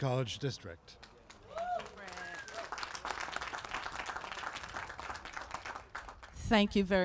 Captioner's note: applause